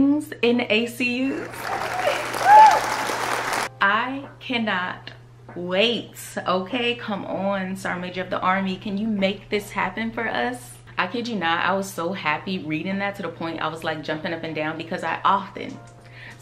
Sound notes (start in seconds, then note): 1.3 audience clapping